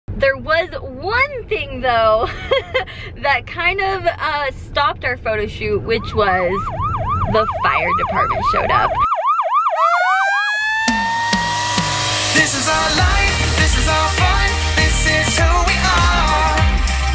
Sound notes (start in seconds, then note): 2.5 laughs; 8.8 sirens wailing; 10.6 upbeat music